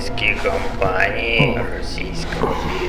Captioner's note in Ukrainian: злий сміх